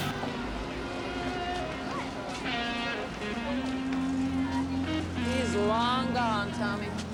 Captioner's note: group chattering; soft music